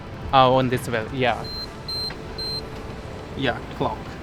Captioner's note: E-Bike beeping